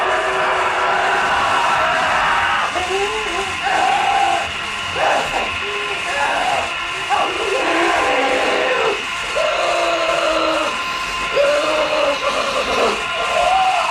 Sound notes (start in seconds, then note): 0.1 Billy screaming; 7.8 Billy growling; 10.9 unsettling music